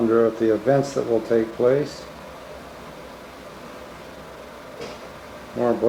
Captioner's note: none